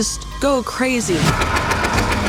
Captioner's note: gunfire